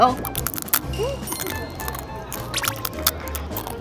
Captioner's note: crackle-crunch